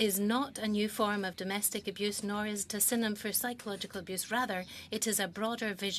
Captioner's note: speaking French